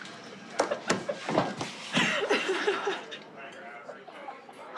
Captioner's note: laughing